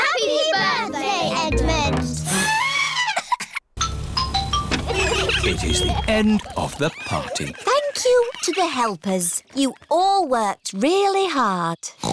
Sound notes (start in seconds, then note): 2.2 trumpets; 3.8 horns honking